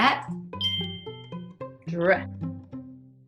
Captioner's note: bell dings